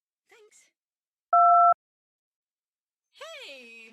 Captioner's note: beep